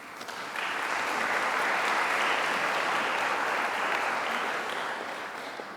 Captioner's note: applause